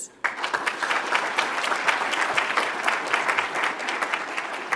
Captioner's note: audience applauds